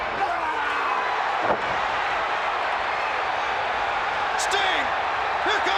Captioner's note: crowd cheering